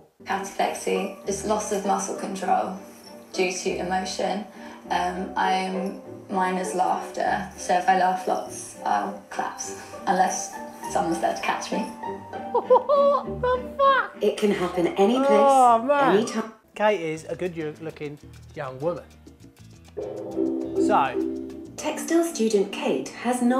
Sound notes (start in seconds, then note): 12.4 laughing